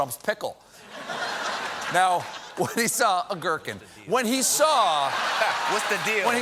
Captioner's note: laughter